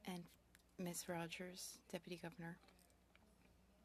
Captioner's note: speaking French